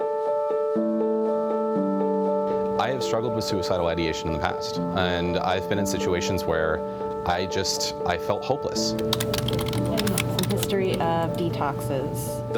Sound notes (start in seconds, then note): 0.2 emotional piano music; 8.8 sound of typing